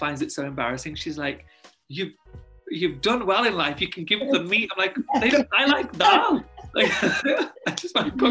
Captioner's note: laugh